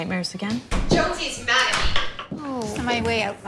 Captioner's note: door closing, footsteps